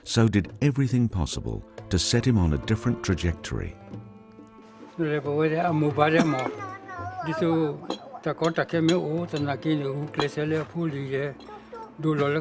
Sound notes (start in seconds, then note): 5.1 speaking in foreign language